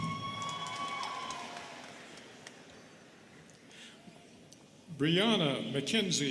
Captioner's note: students cheering and clapping